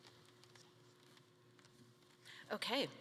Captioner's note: speaking faintly